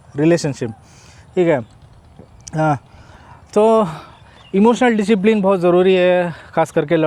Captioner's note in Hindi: नाक से की जाने वाली आवाज़